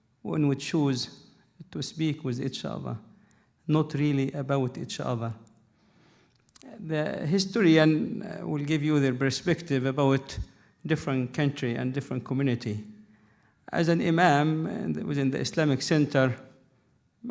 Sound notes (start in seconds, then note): none